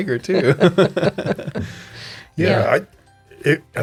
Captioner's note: laughing